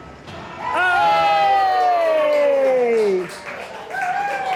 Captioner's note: cheering